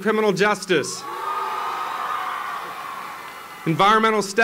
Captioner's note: applause